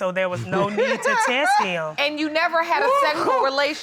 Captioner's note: laughs